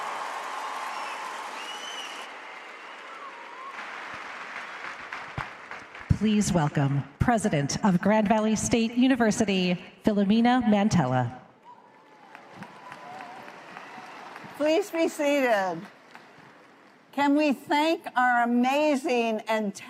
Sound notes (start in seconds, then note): 5.9 applause